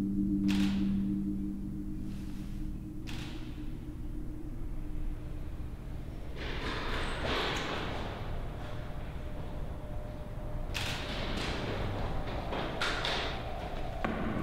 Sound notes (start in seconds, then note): 0.5 shutter clicks; 3.1 shutter clicks; 10.7 shutter clicks